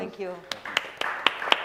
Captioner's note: applause